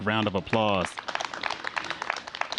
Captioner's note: applause